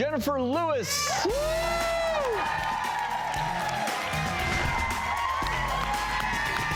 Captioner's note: upbeat music; audience applauding